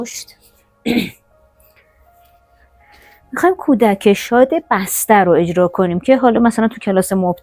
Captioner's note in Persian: گلویش را صاف می‌کند